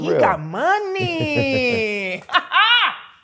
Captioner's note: laughs